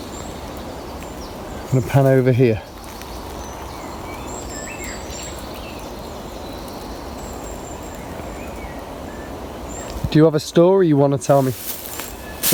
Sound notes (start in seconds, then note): 3.3 birds chirping